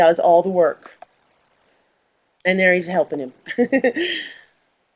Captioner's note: laughs